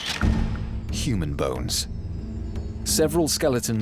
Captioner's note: camera shutter clicks